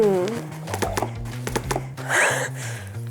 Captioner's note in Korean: 후드드득